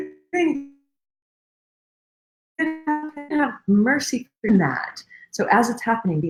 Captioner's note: radio interference drowns out speaker